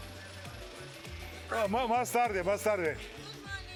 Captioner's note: speaking Spanish